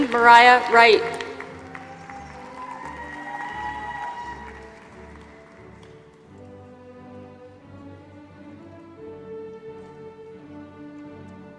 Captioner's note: applause